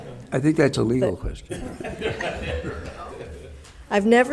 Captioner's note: members laughs